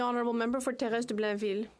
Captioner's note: speaking French